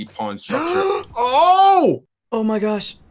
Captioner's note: gasps